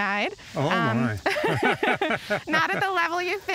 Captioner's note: laughter